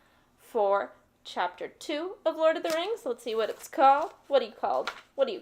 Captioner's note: flipping pages